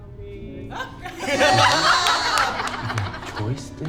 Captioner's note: everyone laughs